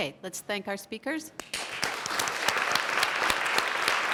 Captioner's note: applause